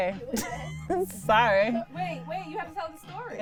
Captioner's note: laughs